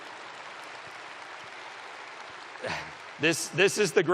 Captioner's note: applause